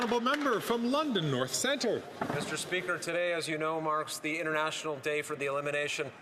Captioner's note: some Applause